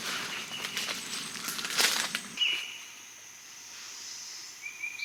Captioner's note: birds and bugs chirping